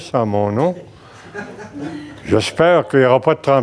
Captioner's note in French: rires